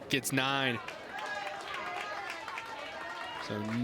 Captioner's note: crowd cheers and applauds